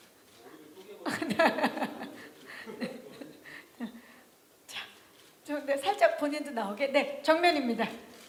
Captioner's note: laughs